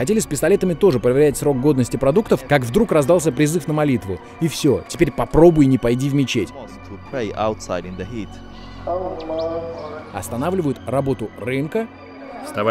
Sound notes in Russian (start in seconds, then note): 7.3 речь на сомалийском